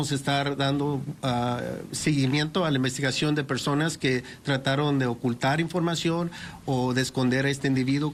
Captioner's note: speaking Spanish